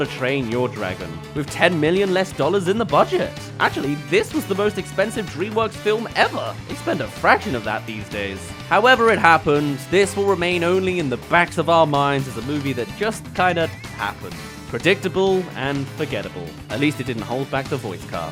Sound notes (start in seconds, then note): none